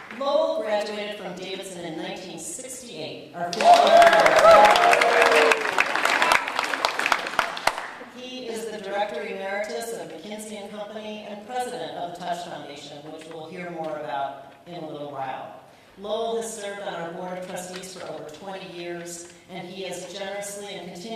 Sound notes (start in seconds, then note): 3.5 audience cheering, applauding